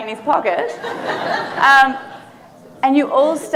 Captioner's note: audience laughing